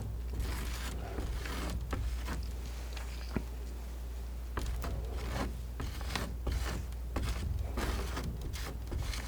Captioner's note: tapping